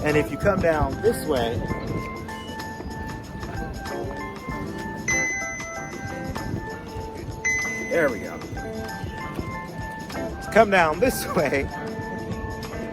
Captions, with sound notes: and if you come down this way, (phone pinging) there we go. Come down this way,